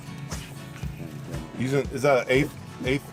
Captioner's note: fishing line whipping